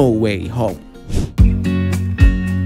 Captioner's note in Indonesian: slow upbeat music; suara transisi